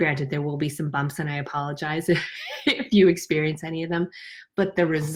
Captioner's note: laughs